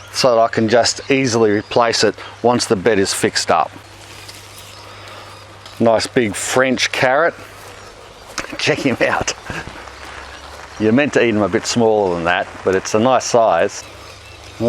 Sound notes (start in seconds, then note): 8.3 chuckles